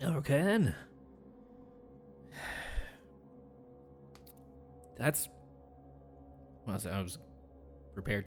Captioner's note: sighs